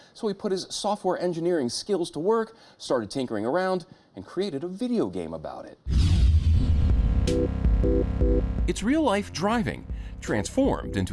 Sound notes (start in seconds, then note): 5.9 graphics whooshing; 5.9 audio warbling; 6.8 playful music